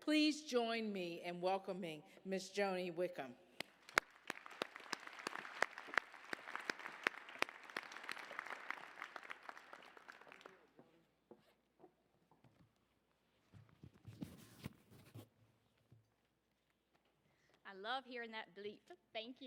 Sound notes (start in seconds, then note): 3.6 applause